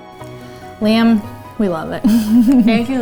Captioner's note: chuckling